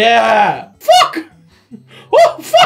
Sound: Mickey Mouse voice

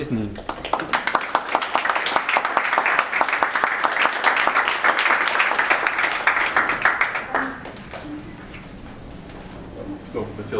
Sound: applause

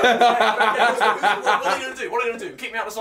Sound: laughing

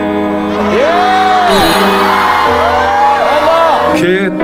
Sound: cheering, You're doing well, !

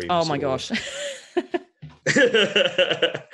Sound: laughs

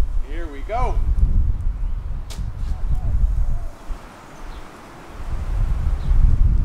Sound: wind buffeting

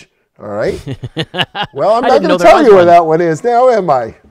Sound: laughs

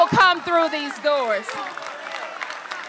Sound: applause

